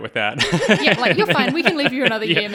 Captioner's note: laughing